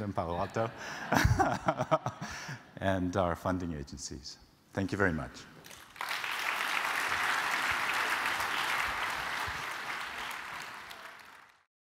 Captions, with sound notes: Palo Alto. >> [LAUGH] >> [LAUGH] And our funding agencies. Thank you very much. >> [APPLAUSE]